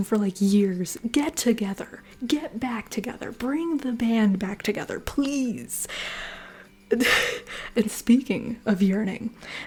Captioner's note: laughter